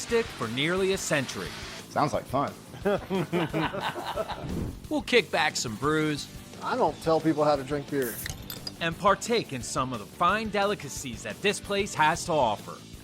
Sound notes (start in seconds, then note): 2.8 laughing; 7.8 drink fizzling